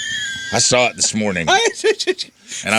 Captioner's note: laughter